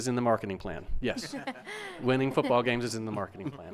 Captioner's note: members laugh